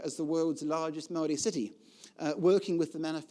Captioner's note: speaking foreign language